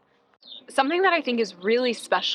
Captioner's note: birds chirping